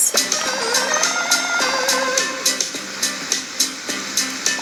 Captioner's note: game beeping